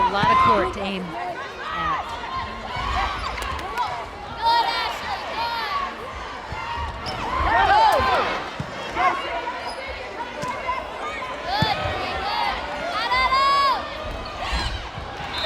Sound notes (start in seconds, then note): 4.0 players yelling